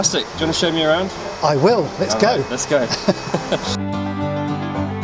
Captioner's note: they laugh